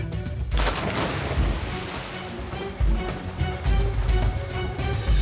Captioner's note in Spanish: ruido al echarse al agua